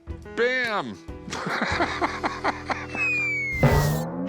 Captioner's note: laughs